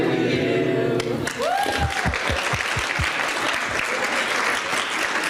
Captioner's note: audience applauding